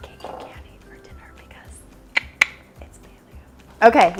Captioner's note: clicks tongue